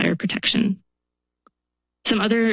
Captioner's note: pause